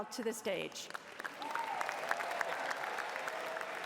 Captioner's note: cheering